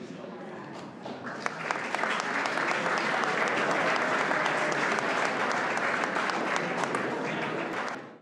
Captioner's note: applause